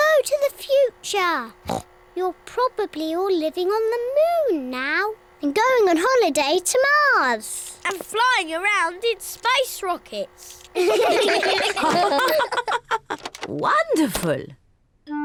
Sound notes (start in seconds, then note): 1.6 oinks; 10.7 all laugh